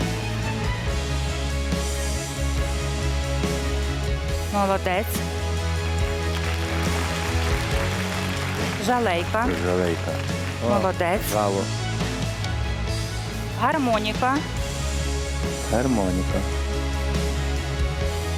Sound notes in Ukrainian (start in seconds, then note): 6.2 оплески